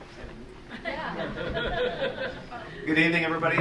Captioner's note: crowd chuckling